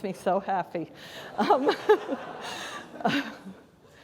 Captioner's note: laughter